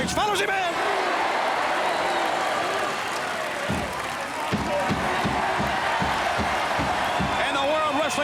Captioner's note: applause